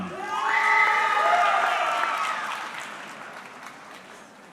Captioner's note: audience cheering